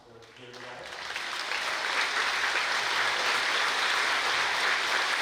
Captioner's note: applause